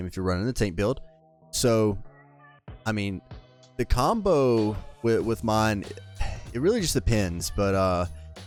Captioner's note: sigh